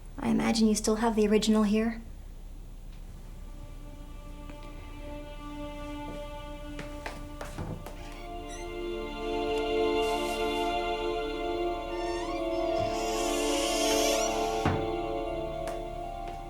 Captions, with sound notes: I imagine you still have the original here. (brooding music) (door creaking)